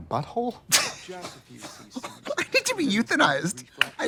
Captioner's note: both laughing